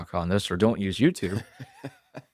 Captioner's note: laughs